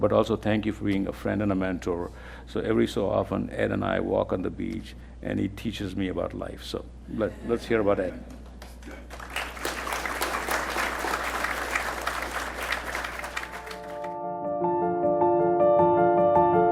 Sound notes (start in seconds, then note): 8.5 attendees applauding; 13.0 gentle music